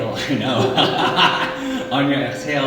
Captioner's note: laughing